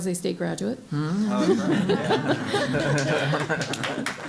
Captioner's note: laughing